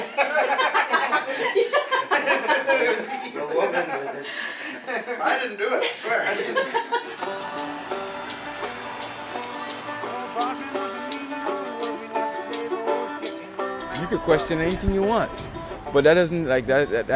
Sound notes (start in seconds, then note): 0.0 laughing; 0.0 all laughing